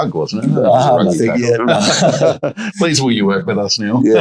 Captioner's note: laughs